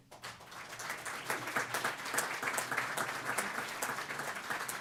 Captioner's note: applause